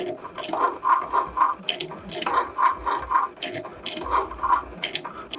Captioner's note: machine clicking